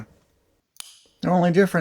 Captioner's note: click